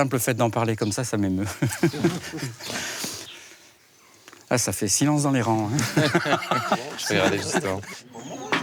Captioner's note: laughs